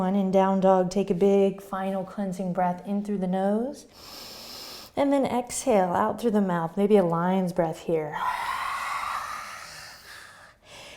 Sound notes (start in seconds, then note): 4.0 inhaling; 8.2 exhaling